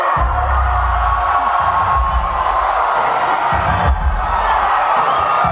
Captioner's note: attendees applauding and cheering